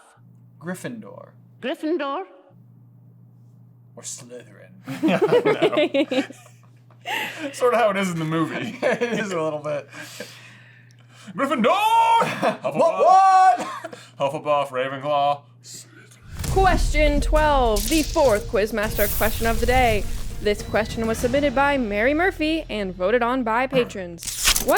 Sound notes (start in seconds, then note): 4.8 laughter; 14.8 sulky whisper